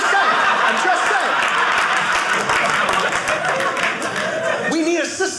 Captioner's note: audience applauding